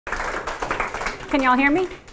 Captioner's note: audience applauding